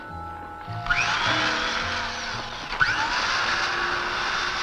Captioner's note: drill buzzing